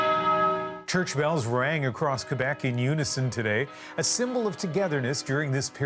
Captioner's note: bells tolling